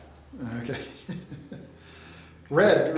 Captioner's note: laughs